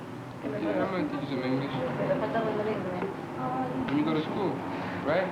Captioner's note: Spanish speaking